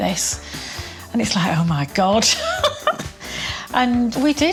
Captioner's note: laughing